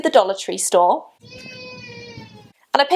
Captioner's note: distant Cries